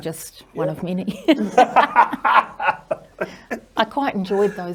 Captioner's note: both laugh